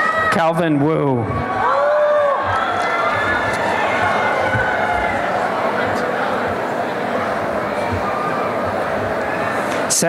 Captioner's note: applause and cheering